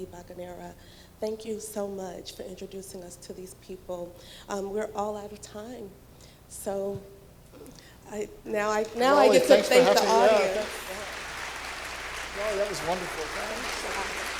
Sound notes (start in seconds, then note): 8.8 applause